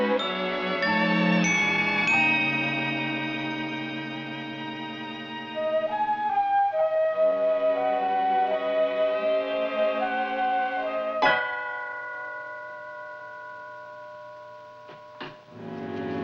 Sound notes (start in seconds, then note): 11.2 doorbell ringing